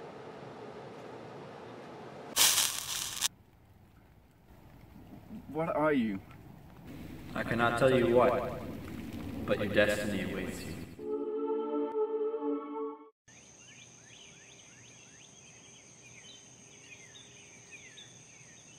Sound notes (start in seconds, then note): 11.0 beautiful ethereal music; 13.6 nature sounds and birds chirping